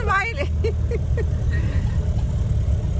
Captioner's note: laughter